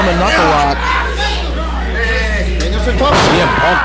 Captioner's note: audience cheering